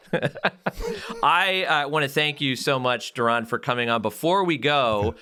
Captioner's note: laugh